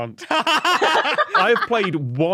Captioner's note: guests laughing